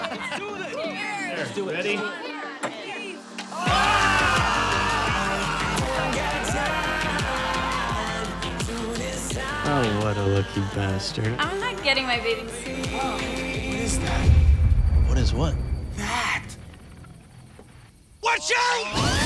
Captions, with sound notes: Let's do it! (CHEERING) Oh, what a lucky bastard. I'm not getting my bathing suit Oh, what is that? What is what? That Watch out!